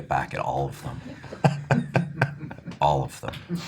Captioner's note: laughing